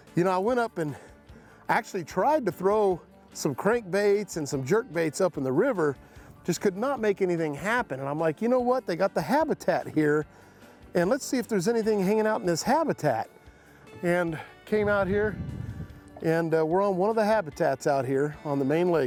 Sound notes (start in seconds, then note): none